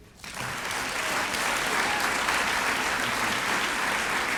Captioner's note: applause